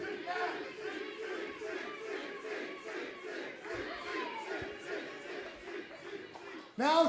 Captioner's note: crowd cheering